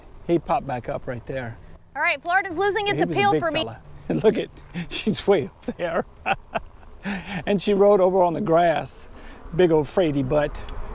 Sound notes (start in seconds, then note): 5.6 laughing; 5.6 chuckling